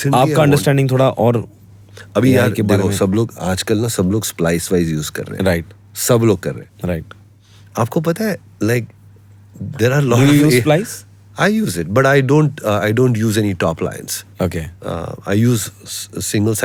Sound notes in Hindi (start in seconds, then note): 7.3 नाक से की जाने वाली आवाज़